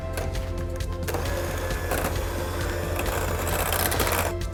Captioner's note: mixer whirring